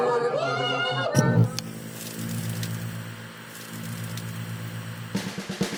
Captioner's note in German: Klick, TV Rauschen